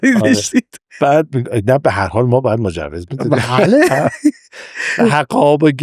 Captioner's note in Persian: خنده